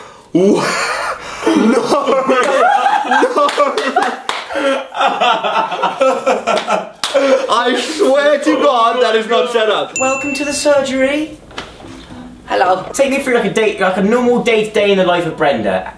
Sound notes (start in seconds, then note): 1.5 laughing and clapping